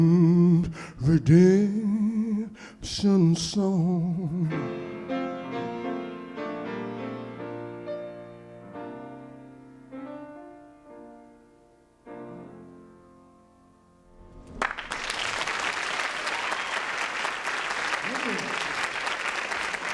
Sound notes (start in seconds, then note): 4.6 jazzy piano music plays; 14.4 applause